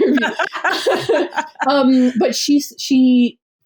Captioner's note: laughs